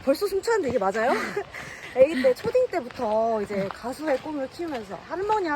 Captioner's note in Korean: 웃음